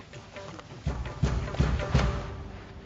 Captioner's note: banging